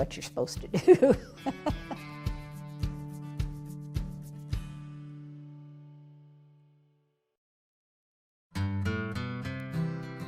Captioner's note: laughs